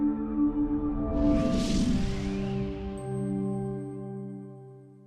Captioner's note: gentle music; whooshing